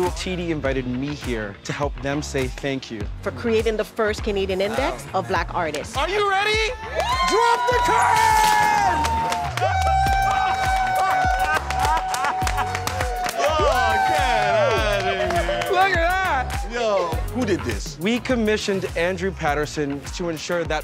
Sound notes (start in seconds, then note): 8.7 cheering